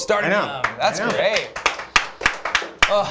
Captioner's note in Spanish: aplausos